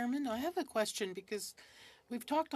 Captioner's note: speaking french